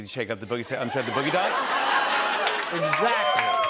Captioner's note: laughter